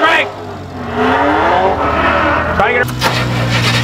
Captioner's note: car revs; engine starts